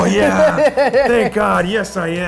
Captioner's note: laughs